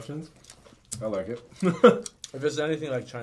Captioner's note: chuckles